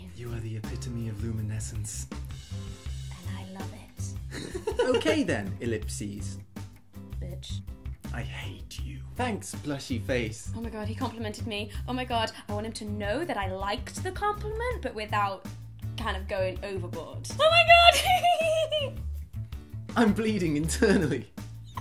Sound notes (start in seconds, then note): 4.3 giggles; 17.7 giggles; 21.6 laughing